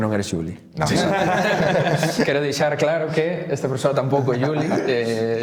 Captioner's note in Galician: risas